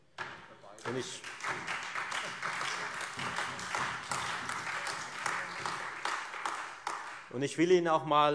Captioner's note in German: Beifall Freie Demokraten, vereinzelt SPD, AfD und DIE LINKE